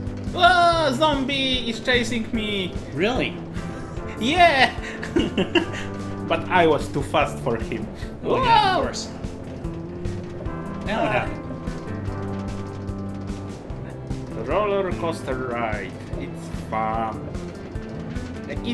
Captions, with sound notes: Whoaaa! Zombie is chasing me! Really! Yeah! (laughs) But I was too fast for him Whoa! Now what happened? Roller coaster ride It’s fun -